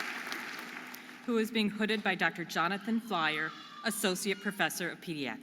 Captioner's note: audience applauding and cheering